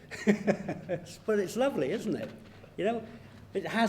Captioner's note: laughs